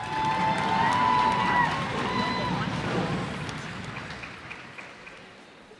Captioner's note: cheers and applause